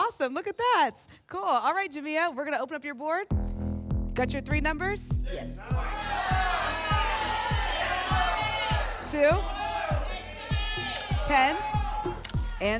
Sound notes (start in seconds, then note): 5.6 audience shouting numbers